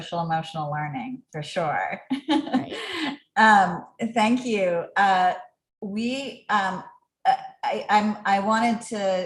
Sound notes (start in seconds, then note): 2.3 laugh